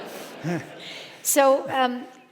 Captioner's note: audience laughing